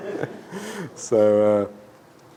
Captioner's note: laughs